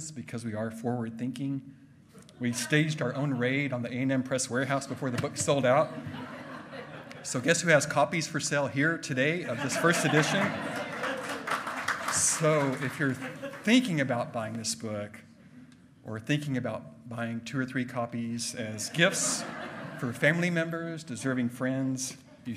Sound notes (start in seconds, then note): 10.1 loud clapping; 11.1 hearty laughing